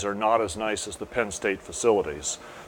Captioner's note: background machinery sounds